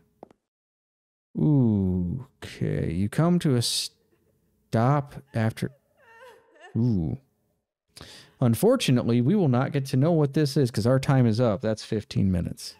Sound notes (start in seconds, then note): 5.3 crying noises in game